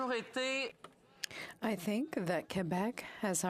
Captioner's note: speaking French